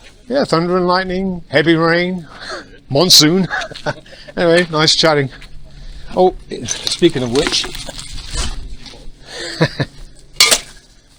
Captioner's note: laugh